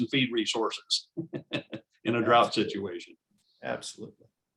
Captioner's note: laughs